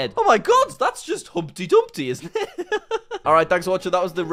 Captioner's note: laughs